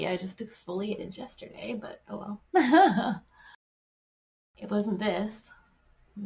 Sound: giggles

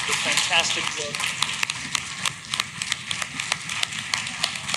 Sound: clapping

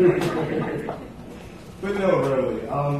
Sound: laughter

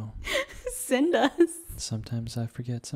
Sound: laughs

